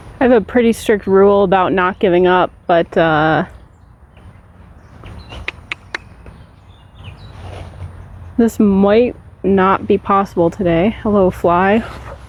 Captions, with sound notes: I have a pretty strict rule about not giving up, but... *thinking clicks* This might not be possible today. Hello, fly.